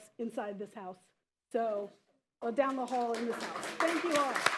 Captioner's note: applause